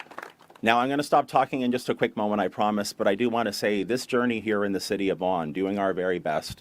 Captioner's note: applause